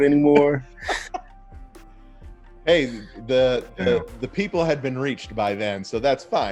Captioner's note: laughs